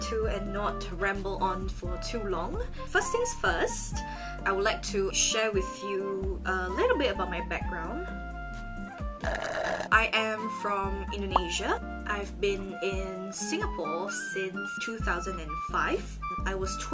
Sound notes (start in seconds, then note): 9.0 loud slurping